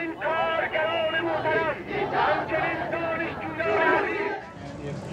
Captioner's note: chanting